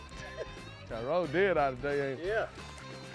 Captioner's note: murmurs